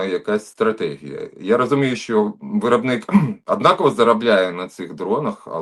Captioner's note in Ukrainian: прочищення горла